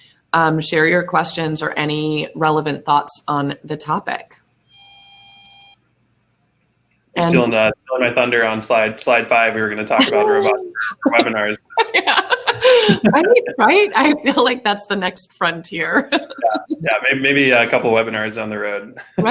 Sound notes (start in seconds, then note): 9.0 laughing; 18.9 laughs